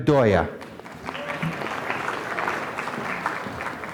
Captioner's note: applause